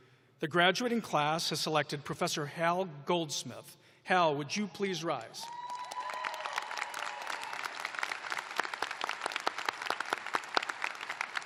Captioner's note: cheers and applause